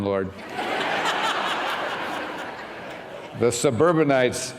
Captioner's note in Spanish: risas